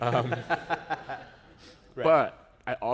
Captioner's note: laughter